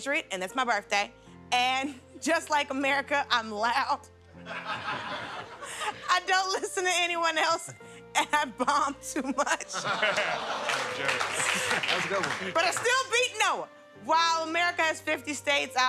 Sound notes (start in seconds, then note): 9.4 laughter; 9.7 laughing